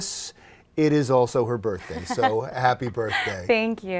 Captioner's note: laughs